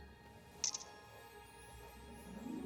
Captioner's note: click